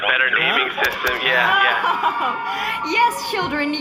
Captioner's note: laughing; cheering